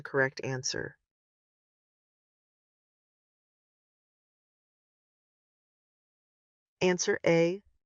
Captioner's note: no audio